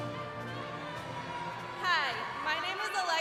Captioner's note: crowd cheering